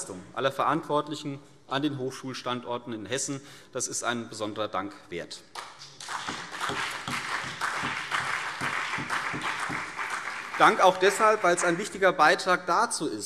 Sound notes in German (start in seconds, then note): 5.8 Beifall CDU und BÜNDNIS 90/DIE GRÜNEN